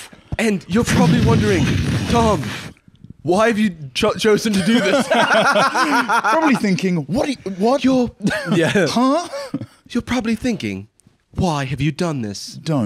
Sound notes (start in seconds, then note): 4.5 both laughing